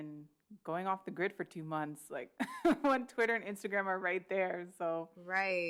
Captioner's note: laughs